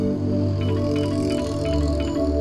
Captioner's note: Phone ringing